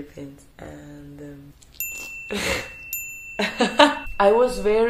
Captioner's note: small bell sound